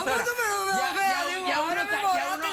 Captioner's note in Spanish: Risas